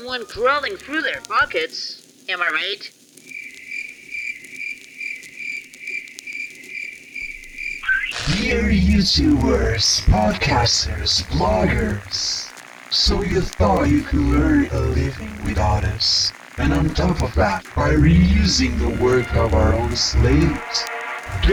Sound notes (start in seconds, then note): 4.2 crickets